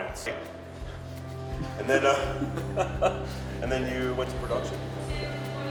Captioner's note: laughs